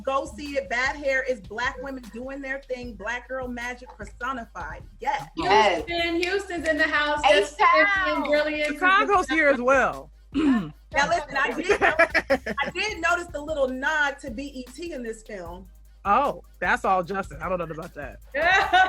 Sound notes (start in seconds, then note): 10.3 talking and laughing over each other; 10.3 clears throat; 18.4 laughs